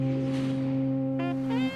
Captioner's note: fog horn blowing